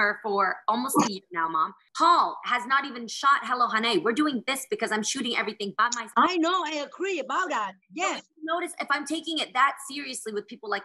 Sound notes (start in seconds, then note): none